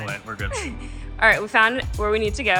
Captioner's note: laughs